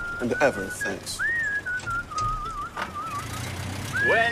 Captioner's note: whistling